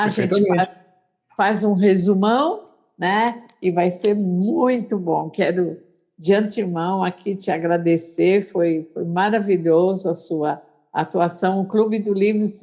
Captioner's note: Speaking Hebrew